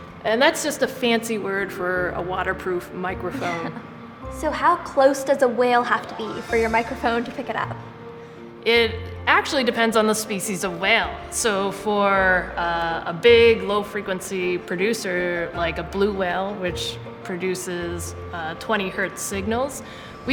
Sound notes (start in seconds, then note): 3.3 laughing